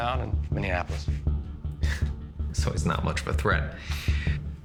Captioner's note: scoffs